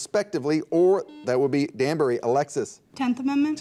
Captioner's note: buzzer dings